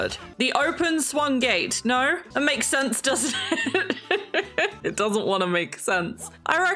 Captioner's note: laughs